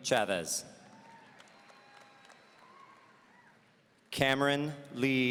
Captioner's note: audience cheering